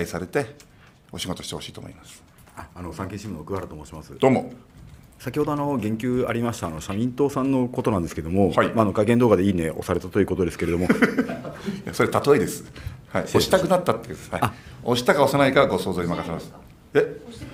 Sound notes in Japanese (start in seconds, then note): 10.6 笑い